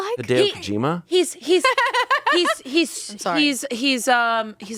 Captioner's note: laughing